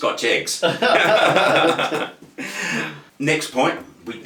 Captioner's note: both laughing